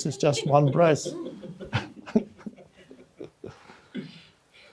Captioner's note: crowd laughing